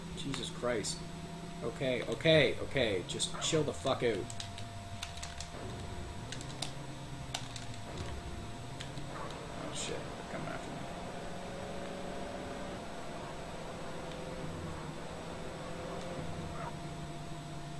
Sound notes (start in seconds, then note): none